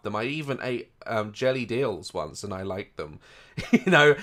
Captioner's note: laugh